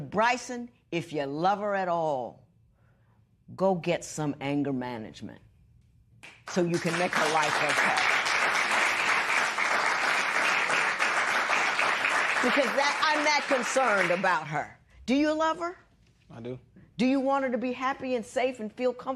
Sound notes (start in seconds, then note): 9.3 applause